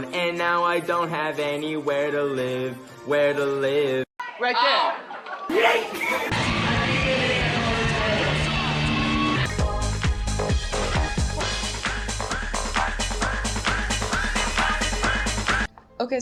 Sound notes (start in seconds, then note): 6.5 live show noises; 9.5 party music